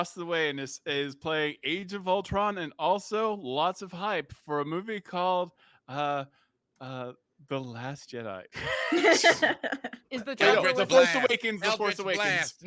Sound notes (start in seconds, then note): 8.6 laughs